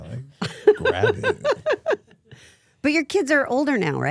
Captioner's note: Stephanie laughs